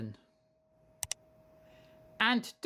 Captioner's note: click sound